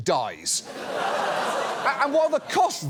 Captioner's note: studio audience laughs